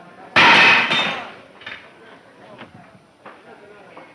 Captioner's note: crashing